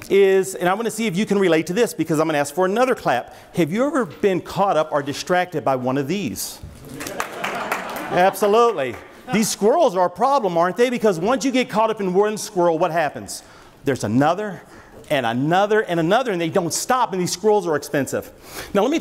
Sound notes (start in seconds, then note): 6.9 audience laughs